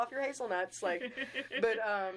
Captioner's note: laughing